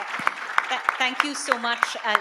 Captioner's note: audience applauds